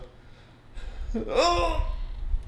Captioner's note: groans